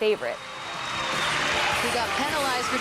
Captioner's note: crowd cheering